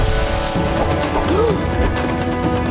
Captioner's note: gasping